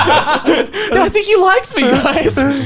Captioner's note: laughing